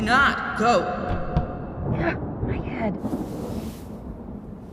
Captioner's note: thump!; natural voice